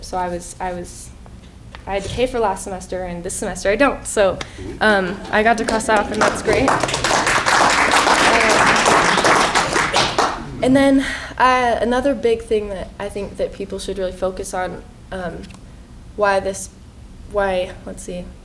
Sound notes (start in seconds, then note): 5.0 applause